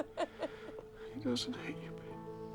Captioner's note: Bryn crying